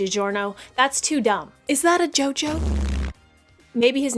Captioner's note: silly jojo buzz sound